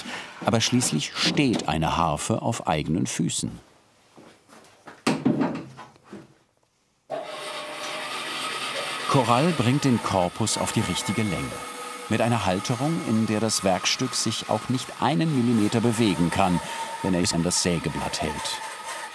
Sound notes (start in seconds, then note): 6.7 saw noise